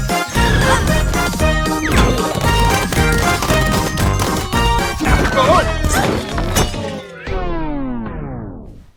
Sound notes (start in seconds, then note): 2.5 flower pot banging rapidly; 5.1 all groaning, grunting; 5.1 music slows, stops